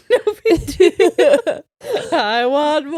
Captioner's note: laughing